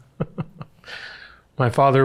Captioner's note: chuckles